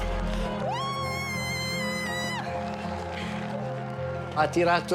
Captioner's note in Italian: Marta urla; parla in italiano